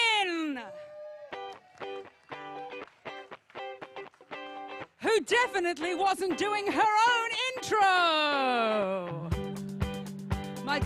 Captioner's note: applause